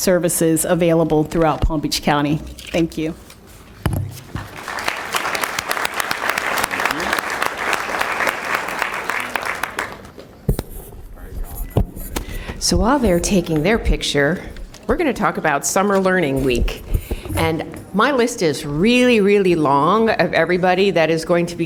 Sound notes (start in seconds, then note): 9.3 applause